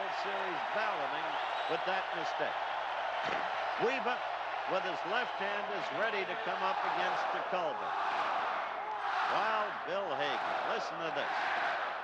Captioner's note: cheering